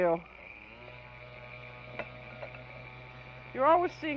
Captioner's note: loud whirring